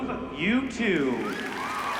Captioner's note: applause